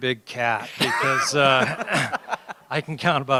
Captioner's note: laughter